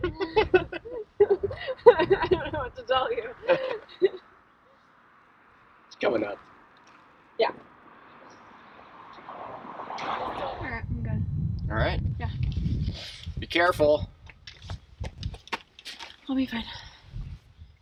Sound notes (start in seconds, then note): 0.0 laugh; 10.2 birds chirping